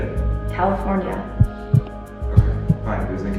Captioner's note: heartbeat